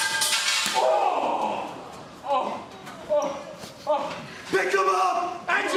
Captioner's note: shouting